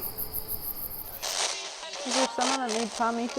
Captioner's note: spirit box scanning